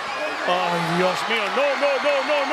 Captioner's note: commentator speaking Spanish; crowd cheering